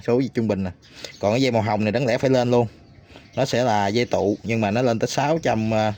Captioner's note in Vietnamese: khịt mũi